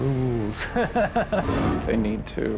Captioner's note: laughs